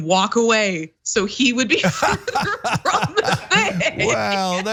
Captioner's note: laugh